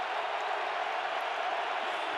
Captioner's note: crowd cheering